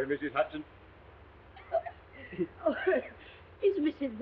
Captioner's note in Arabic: السيدة هدسون تسعل